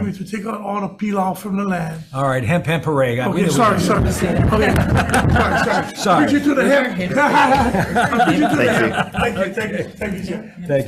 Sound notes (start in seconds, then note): 7.3 laughs; 7.6 all laughing